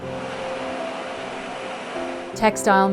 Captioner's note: textile machine whirring